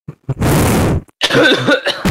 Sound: poopy diaper noises

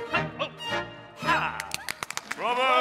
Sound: crowd applauds

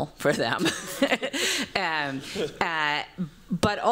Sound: chuckles

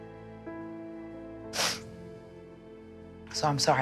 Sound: sniffles

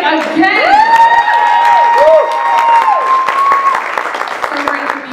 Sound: cheering

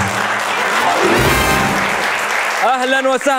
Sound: clapping

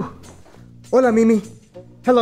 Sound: spanish

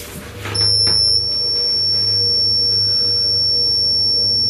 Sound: high-pitched beeping

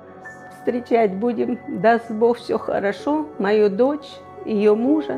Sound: speaking Ukrainian

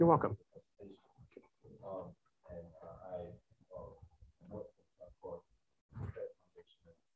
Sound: faintly speaking

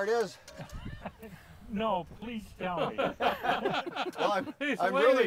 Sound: laughing

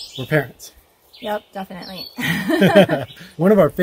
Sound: laughter

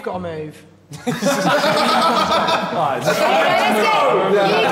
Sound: all laughing

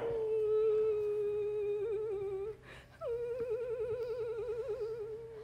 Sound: Sharik softly whimpering

